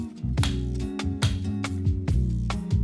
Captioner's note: mallet thudding; soft instrumental music